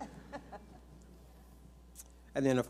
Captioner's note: audience laughs